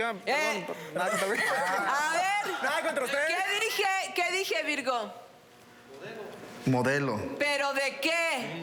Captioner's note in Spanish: Hablan al unísono